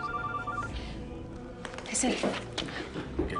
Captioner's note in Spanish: Suena el celular